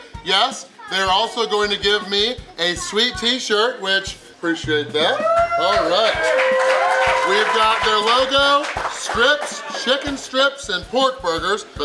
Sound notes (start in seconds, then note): 4.9 crowd cheering; 5.0 crowd applauding